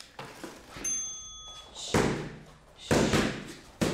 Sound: bell rings; hand smacks

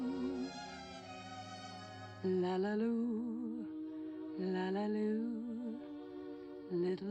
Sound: humming

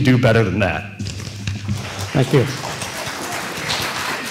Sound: applause

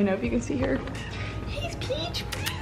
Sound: cat meows

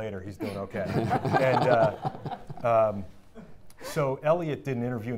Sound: audience laughing

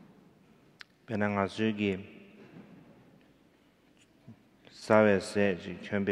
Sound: speaking in foreign language

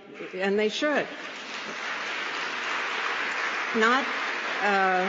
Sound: applause

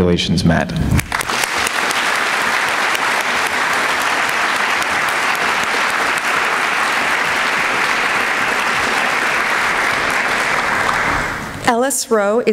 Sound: applause

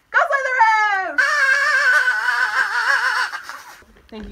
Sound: duck call cameoing as Party Blower Noise

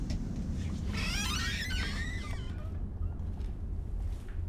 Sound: door creaking

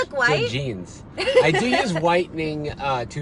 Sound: laughs

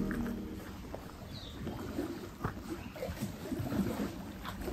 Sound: birds singing

